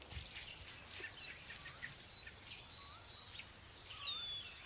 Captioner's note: birds singing, chirping